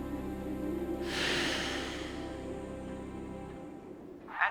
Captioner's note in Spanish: suspira